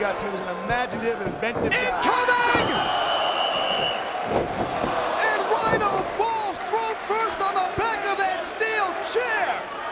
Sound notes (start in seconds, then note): 1.8 spectators exclaiming; 2.8 whistling